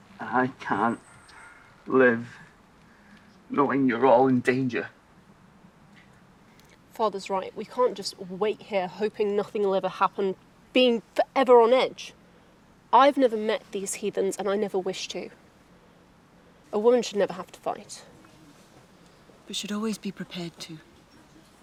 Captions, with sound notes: And I can't live knowing you're all in danger. (birds chirping) - Father's right. We can't just wait here hoping nothing will ever happen, being forever on edge. I've never met these heathens and I never wish to. A woman should never have to fight. - We should always be prepared to.